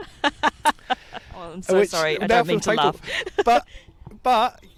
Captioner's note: laughs